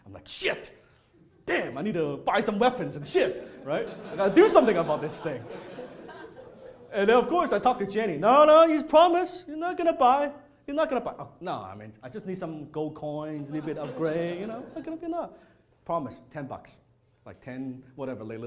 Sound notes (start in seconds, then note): 5.7 audience laughing